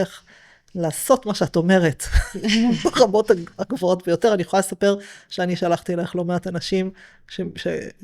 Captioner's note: laughter